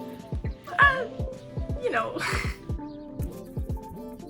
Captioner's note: laughs